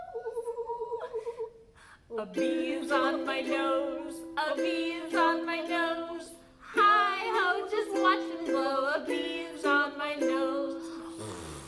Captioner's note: blowing